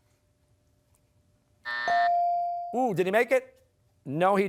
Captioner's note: buzzer sounding